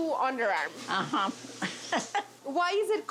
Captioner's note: laughs